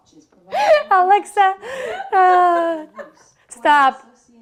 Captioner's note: sighs